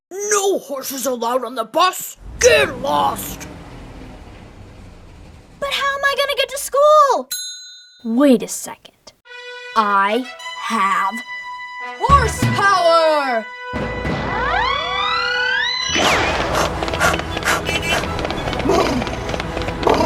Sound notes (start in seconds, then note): 7.4 bell dinging; 19.8 horse hooves clattering